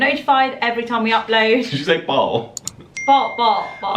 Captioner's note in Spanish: bell dinging